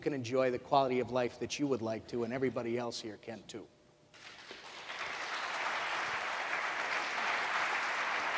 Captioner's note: applause